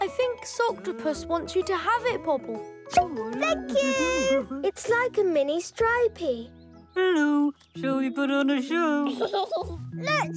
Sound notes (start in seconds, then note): 3.2 pops; 9.0 giggling